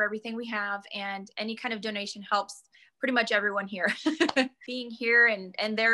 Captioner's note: laugh